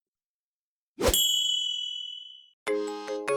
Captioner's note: ring; cheery music